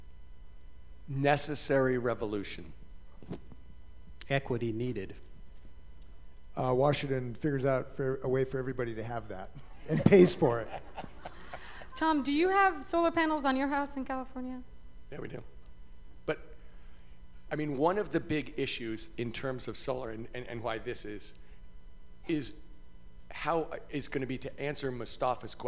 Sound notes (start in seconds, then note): 9.8 laughter